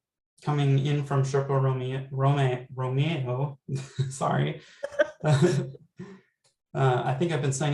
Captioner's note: laughter